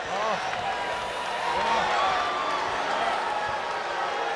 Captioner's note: crowd boos